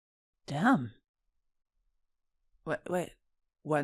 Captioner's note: stammering